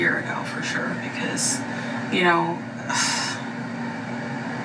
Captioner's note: sighs